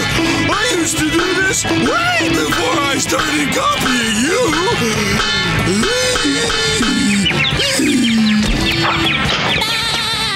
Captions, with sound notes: I used to do this way before I started copying you! [groaning] [laughing]